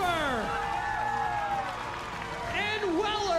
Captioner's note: cheering